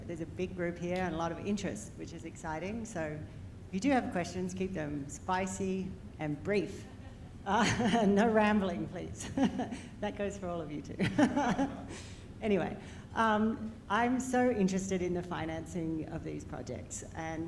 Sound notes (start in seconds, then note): 6.8 chuckles; 11.0 laughs